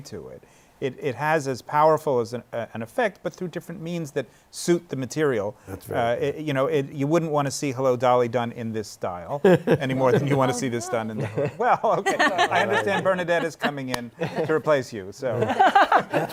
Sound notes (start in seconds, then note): 9.4 chuckles; 15.3 laughter